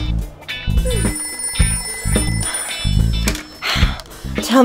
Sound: phone rings

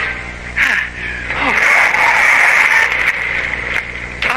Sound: panting, tires squealing

